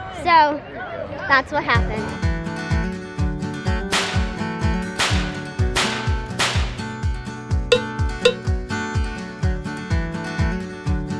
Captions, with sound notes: - So, that's what happened. (guitar riff plays) (slapping noise plays)